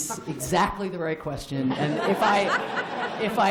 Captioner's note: laughter